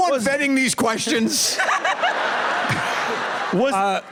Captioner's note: laughter